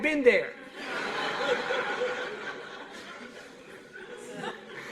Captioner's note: laughter